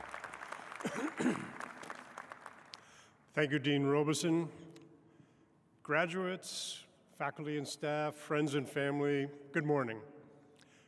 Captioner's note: applause